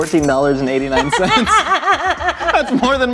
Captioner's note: laughter